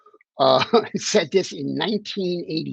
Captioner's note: chuckling